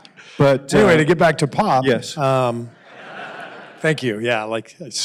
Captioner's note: laughter